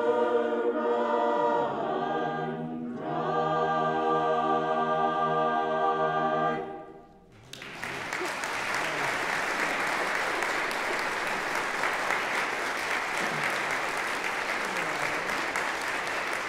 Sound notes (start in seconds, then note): 7.3 applause